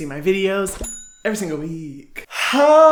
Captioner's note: bell chimes